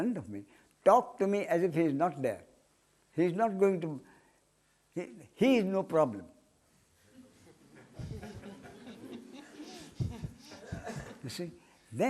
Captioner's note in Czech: smích